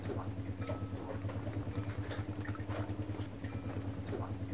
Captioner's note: bell clangs gently nearby